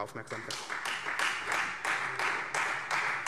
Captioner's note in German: Beifall Freie Demokraten